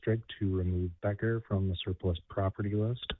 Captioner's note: away from mic